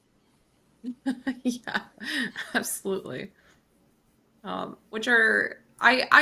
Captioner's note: chuckles